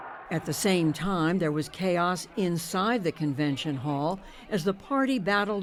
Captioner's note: voice-over